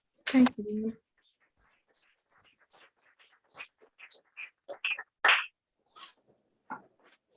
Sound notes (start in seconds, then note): 1.1 applause